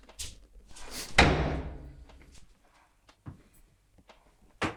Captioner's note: door slamming